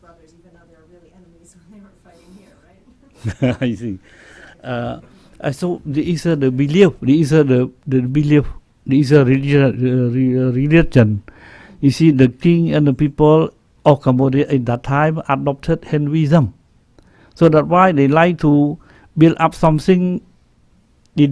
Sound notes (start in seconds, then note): 2.8 laughing; 10.0 slurred speech